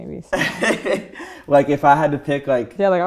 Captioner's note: laughing